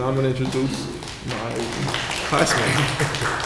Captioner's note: applause